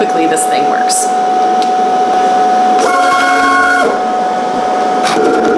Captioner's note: machine whirring